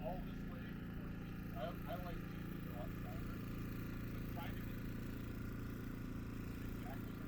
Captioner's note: motor humming; speaking faintly